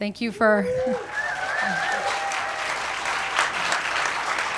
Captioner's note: audience applauds